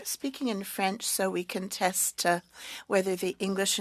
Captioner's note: speaking French